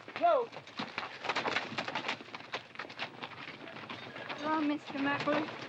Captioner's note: horses and bodies bustling